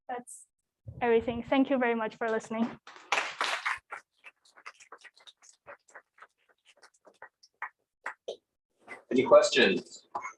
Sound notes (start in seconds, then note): 2.9 applause